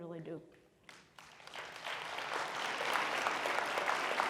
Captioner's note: audience applauds